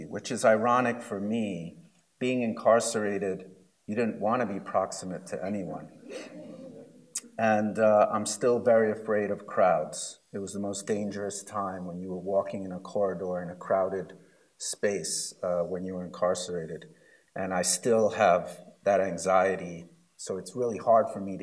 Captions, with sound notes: Which is ironic for me, being incarcerated, you didn't want to be proximate to anyone. (laughs) And I'm still very afraid of crowds. It was the most dangerous time when you're walking in a corridor in a crowded space, when you're incarcerated. And I still have that anxiety, so it's really hard for me